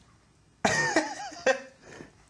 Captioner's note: laughs